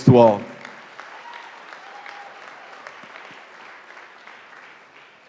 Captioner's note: audience applauding